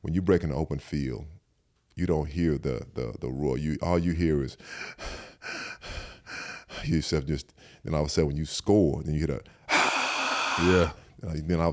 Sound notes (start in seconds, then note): 4.6 Eric panting; 9.9 Eric cheers